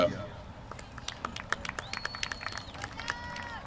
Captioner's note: applause